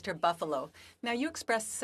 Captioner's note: speaking French